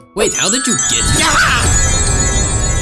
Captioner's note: agent l screams